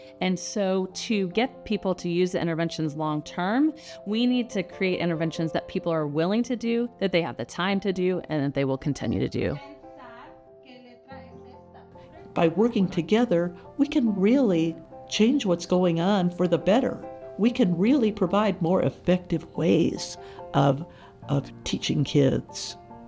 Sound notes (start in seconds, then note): 10.5 classroom instruction sounds